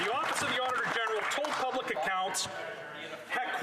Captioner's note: some Applause